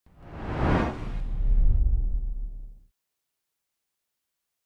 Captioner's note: air whooshing